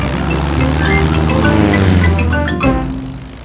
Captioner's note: plane engine revving